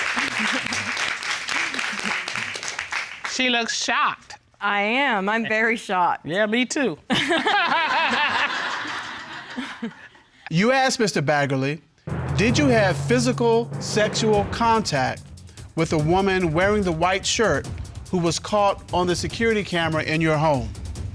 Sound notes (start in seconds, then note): 7.1 chuckling; 7.1 audience laughing; 7.1 laughs